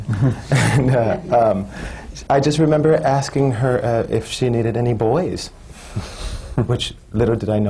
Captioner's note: laughs